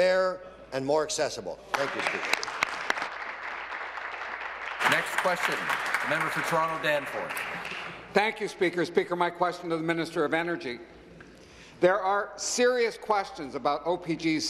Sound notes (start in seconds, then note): 6.0 applause